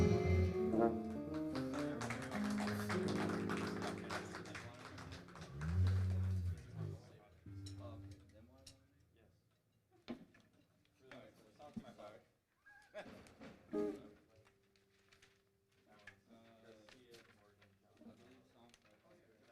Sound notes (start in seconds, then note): 1.1 audience applauding; 11.5 chatter